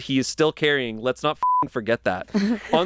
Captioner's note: beep